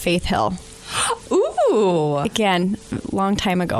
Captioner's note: gasps